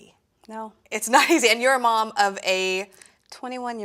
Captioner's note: laughs